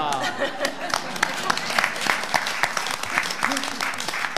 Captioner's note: all laughing; audience applauds